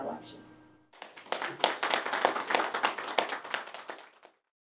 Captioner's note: audience applauding